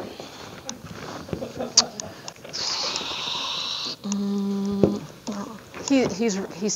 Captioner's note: audience laughing